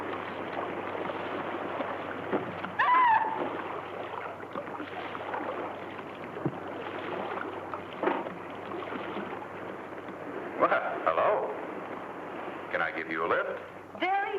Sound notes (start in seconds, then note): 2.8 screams